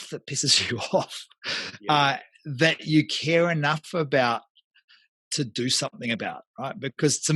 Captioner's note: laughs